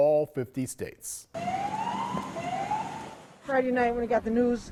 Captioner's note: siren blaring